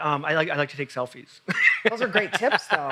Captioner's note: laughs loudly